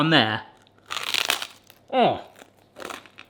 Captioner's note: bread crunching